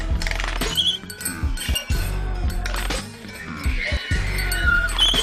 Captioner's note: horns bellowing